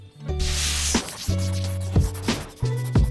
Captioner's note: marker swishing; smooth music